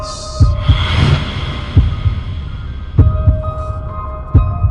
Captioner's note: heartbeat thumping; eerie music